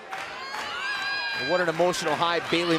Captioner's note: clapping